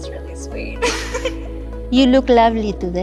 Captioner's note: both laughing